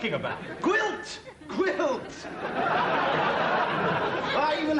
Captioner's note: audience laughter